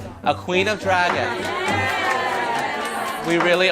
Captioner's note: crowd; cheering